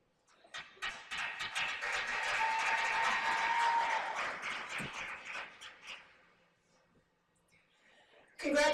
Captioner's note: applause